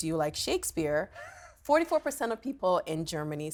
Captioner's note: chuckles